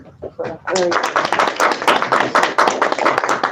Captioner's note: applause